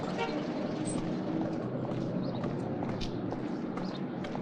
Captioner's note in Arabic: صوت أبواق السيارة